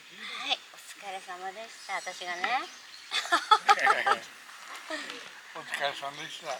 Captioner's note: laughs